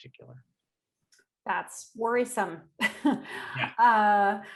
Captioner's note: chuckling